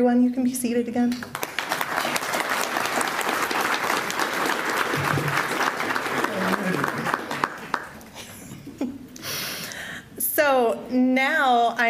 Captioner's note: applause